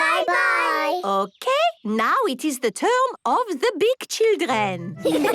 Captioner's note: laughter